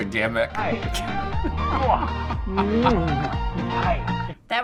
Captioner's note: chuckling